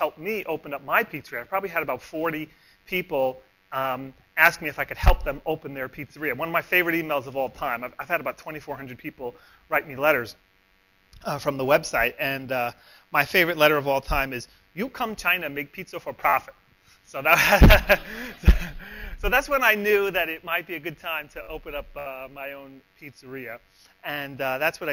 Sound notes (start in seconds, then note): 17.3 laughter; 17.4 laughs